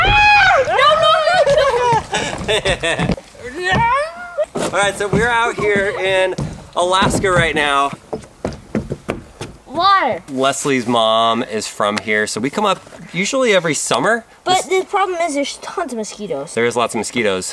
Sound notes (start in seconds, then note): 0.5 laughing; 3.3 yelps; 8.2 thudding footsteps